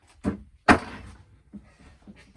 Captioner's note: bangs wood on table